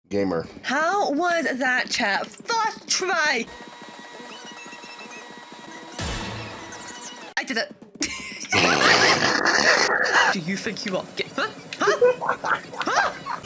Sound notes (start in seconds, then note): 8.0 laughing her ass off; 8.5 snorting